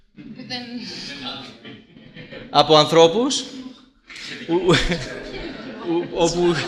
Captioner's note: joke, laughter